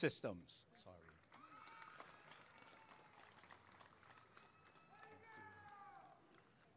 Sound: applause and cheering

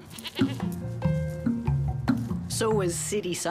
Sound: bleating

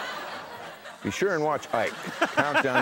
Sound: Conan laughs

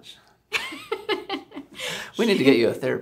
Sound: laughing

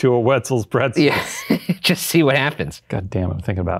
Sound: laughs

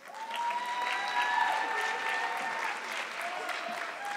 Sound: audience clapping

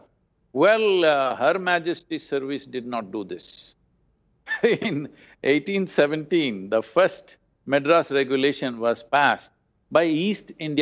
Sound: laughs

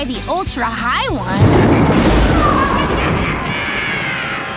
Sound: thunderclap; spooky screams

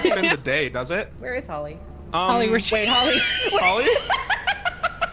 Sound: laughs

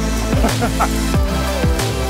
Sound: upbeat music; laughing

